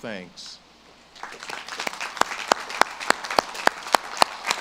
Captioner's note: audience claps